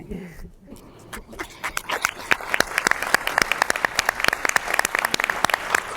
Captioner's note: audience applauding